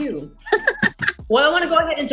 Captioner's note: laughs